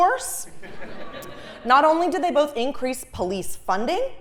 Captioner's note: laugh